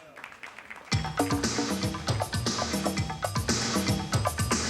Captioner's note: audience applauding; upbeat music